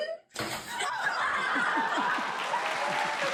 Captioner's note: laughter; cheers and applause